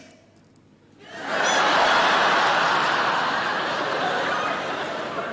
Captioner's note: audience laughing